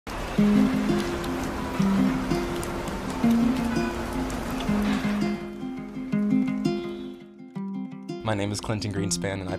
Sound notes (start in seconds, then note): 0.0 rain hitting pavement; 0.3 mellow music